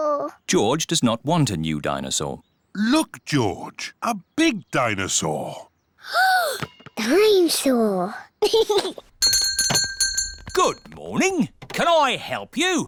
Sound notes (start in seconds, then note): 5.8 gasps; 8.4 giggles; 9.2 bell rings